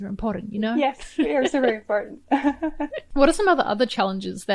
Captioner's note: laughs; chuckles